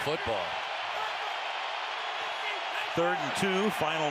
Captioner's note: onfield chatter